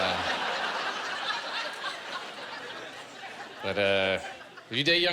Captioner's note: laughter